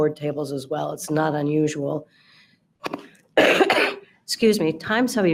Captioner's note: coughs